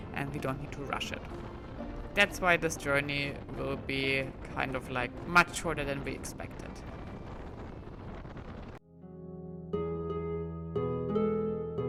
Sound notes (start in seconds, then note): 7.1 wind whooshing; 9.2 upbeat music